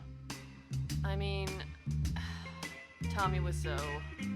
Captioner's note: sigh